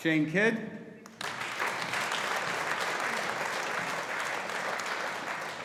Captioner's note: audience applauding